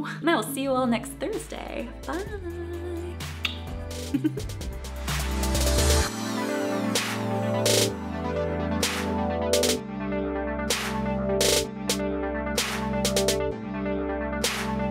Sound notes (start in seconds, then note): 4.0 giggle; 4.9 upbeat electronic music